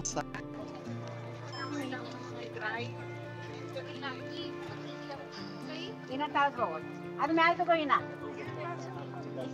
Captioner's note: indistinct chatter